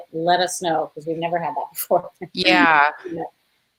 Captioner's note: laughs